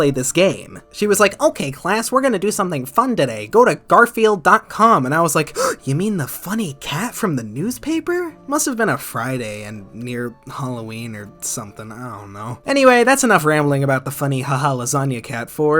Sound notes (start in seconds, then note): 5.5 gasp